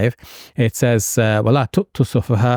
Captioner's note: speaking in Arabic